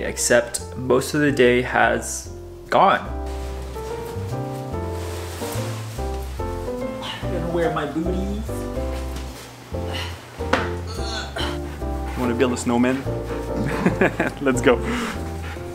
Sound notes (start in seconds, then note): 4.5 christmas upbeat music; 10.9 grunting; 13.4 laughing